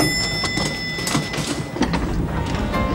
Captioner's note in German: Klingel läutet